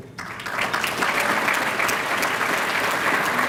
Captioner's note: applause